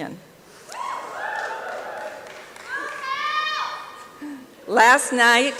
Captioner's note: applause and cheering